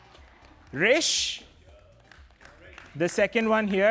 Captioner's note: applause